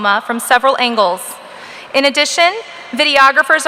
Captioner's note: none